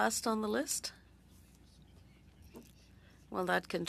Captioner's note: speaking French